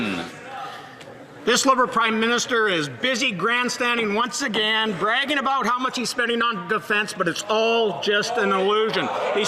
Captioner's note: some Applause